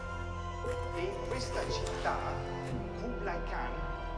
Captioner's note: speaking Italian